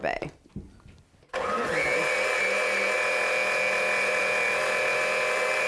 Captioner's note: blender revving